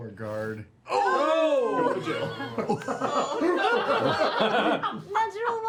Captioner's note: groaning